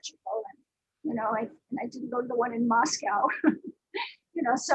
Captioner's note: chuckles